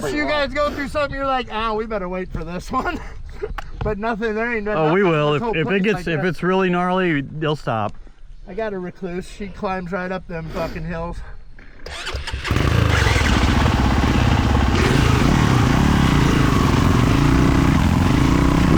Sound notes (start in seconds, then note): 16.3 engine revving